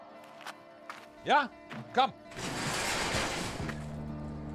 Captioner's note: garage door rattling